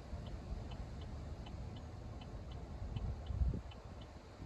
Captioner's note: rushing wind noises in distance